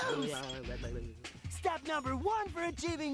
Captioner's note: gibbering